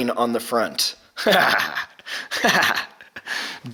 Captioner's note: laughs